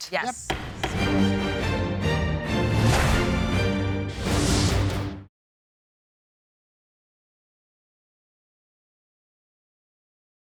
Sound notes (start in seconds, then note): 0.5 gavel banging; 0.5 dramatic music